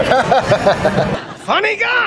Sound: laughing

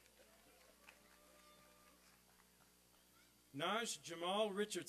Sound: applause and cheering

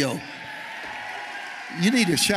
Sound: congregation cheering

